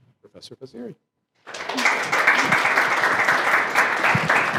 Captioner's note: applause